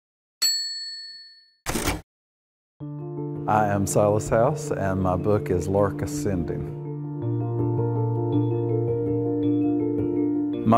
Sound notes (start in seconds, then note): 0.4 bell dings; 1.7 typewriter clacking quickly; 2.9 soft music; 7.5 soft chime music